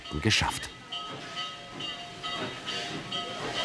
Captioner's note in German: Glockenläuten